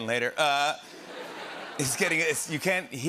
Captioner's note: laughter